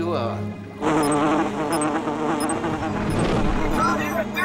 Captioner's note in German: lautes Summen